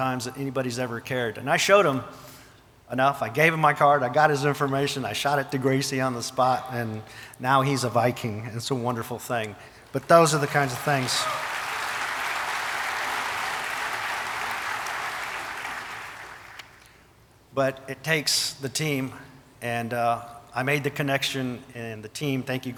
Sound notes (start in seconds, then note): 11.7 audience applauding and cheering